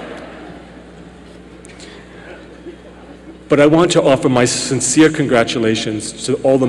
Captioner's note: laughter